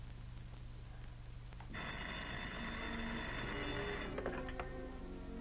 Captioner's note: phone rings